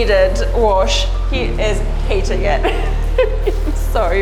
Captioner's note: giggles